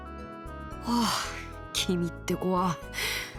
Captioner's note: sigh